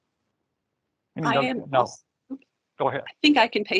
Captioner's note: overlapping chatter